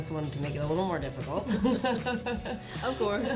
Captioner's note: chuckles